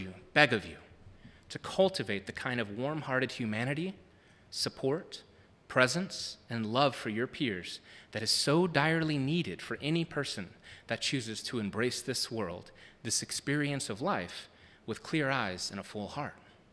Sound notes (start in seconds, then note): none